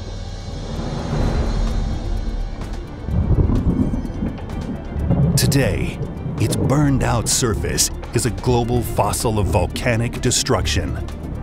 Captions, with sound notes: (dramatic music) (thunder rumbling) Today, it's burned-out surface is a global fossil of volcanic destruction.